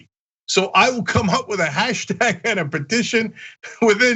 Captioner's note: laugh